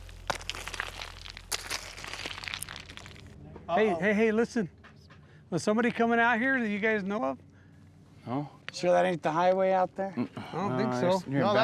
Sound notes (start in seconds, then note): 0.2 hammering; 5.5 atv approaching in distance